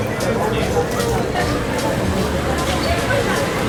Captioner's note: crowd murmuring